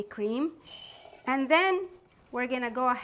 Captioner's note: lentils pouring